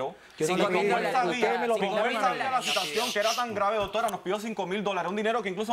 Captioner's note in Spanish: Hablan al unísono